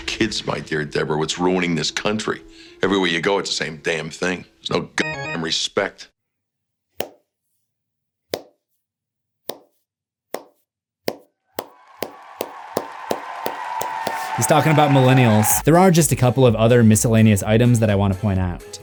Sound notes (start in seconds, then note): 6.7 crowd cheering; 6.7 soft claps